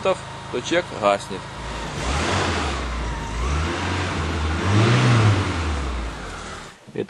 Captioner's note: sound of increased engine speed is heard